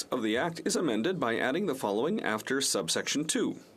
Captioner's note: speaking French